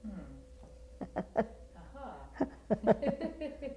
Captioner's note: laugh; laughter